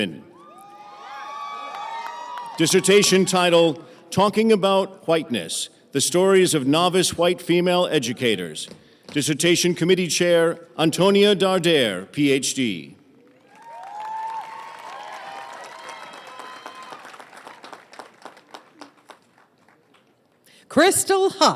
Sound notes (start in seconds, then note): 6.8 applause